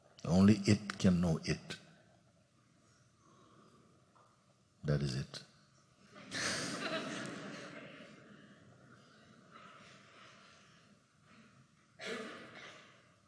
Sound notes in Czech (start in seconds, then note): 6.1 smích; 10.5 ticho